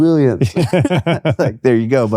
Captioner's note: laughing